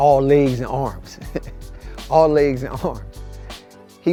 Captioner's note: chuckling